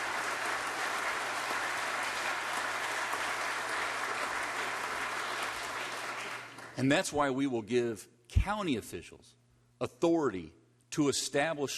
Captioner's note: applause